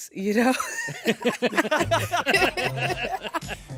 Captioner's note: all laugh